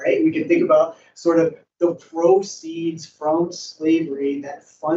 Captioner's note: none